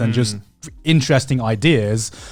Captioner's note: affirmative murmuring